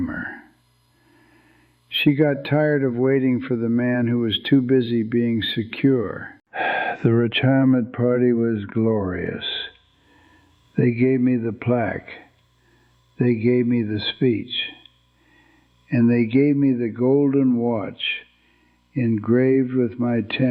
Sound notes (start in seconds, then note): 6.6 sighs